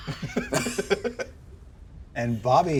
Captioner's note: giggles